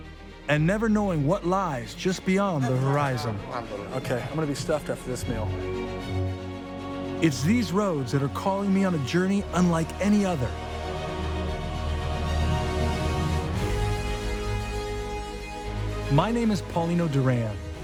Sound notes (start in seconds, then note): 3.5 speaking in foreign language; 10.7 dramatic music